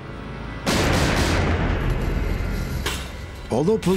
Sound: gunfire

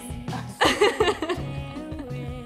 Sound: laughter

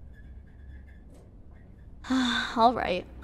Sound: sigh; sound: elevator sound - opening

